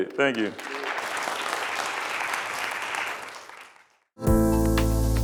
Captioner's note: students applaud; bright music